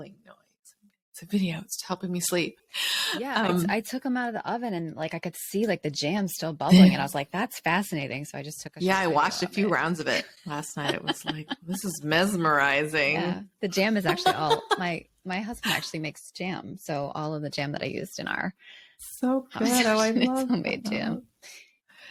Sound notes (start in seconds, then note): 10.0 laughs